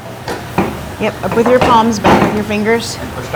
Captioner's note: scale clattering